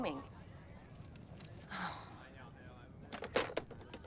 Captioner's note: sighs